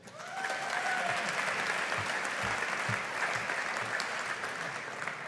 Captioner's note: audience applauding